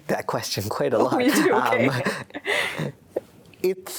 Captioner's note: laughing